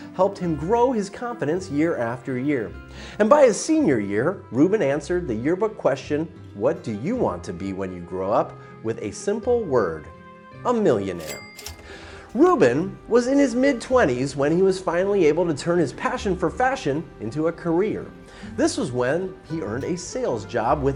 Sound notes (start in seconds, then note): 11.1 cash register ringing